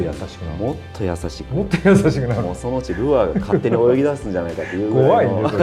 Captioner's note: laughs